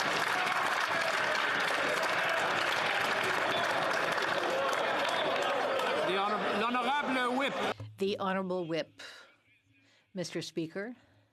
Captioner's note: some Applause